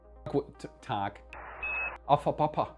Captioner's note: speaking foreign language; alarm beeping